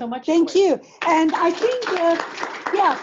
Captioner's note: applause